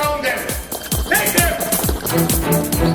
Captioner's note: distant gunfire